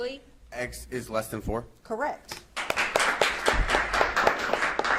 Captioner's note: audience claps